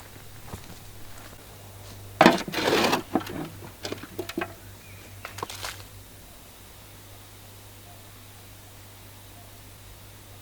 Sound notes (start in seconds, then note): 2.1 spade scrapes against the wheelbarrow